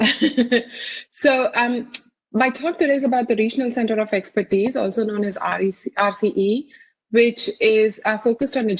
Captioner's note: chuckles